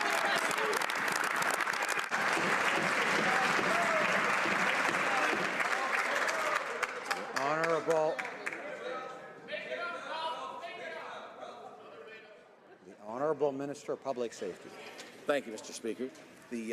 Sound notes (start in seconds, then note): 2.0 some Applause